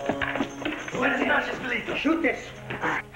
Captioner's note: Spanish spoken audio